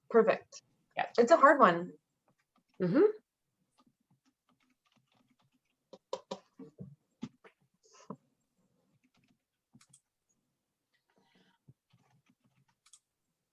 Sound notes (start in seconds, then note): 4.5 keyboard keys clicking